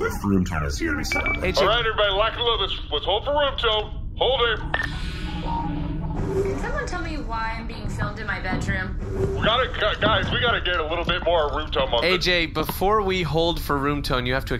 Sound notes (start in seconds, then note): 4.5 door opens